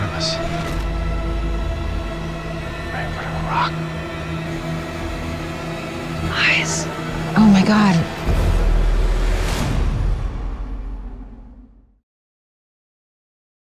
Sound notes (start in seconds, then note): 0.1 music swelling; 6.0 whispering